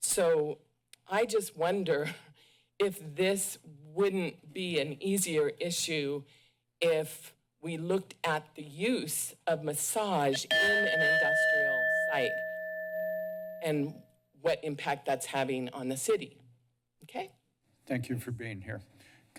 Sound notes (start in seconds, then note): 10.4 timer dings